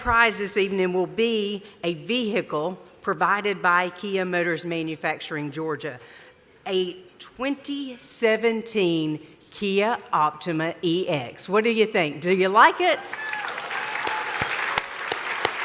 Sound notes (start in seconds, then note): 13.0 applause